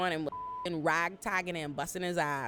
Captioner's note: beep